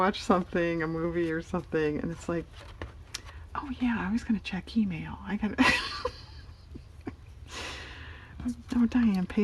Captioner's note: laughs